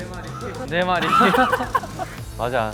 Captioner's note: laughing sound